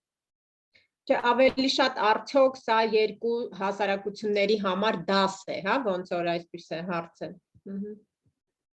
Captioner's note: repeating the question in Armenian